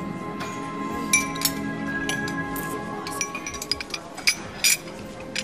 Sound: saucers clinking

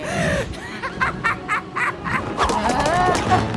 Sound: laughing

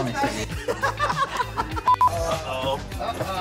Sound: laughter

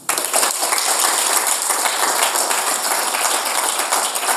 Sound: audience applauds

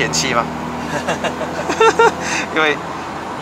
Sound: laugh xD

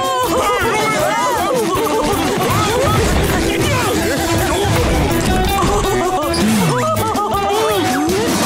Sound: laughing

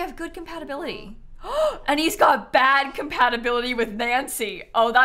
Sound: gasps

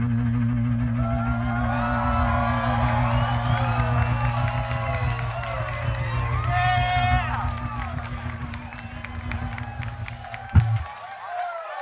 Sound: audience cheers

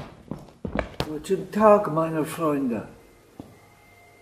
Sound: speaking in German

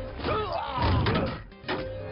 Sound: grunting

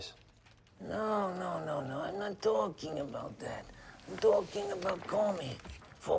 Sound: none

